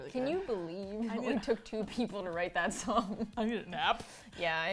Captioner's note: laughs